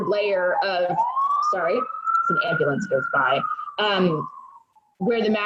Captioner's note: ambulance siren wails